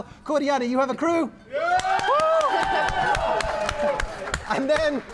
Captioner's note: applause